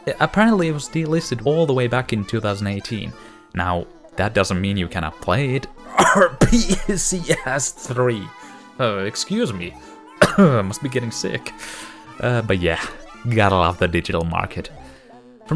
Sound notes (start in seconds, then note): 5.8 cough